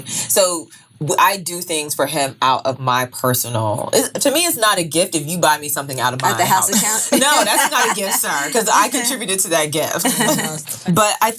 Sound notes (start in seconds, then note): 6.3 women laughing